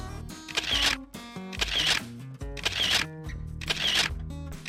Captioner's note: camera sounds